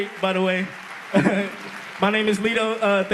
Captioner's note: applause